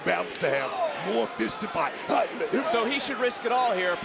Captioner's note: Booker gasps